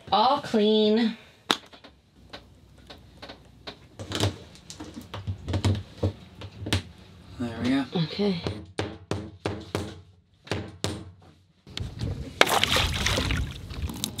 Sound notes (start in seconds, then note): 8.6 tool tapping; 12.4 water splashing